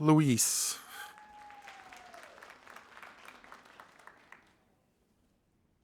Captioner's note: audience applauding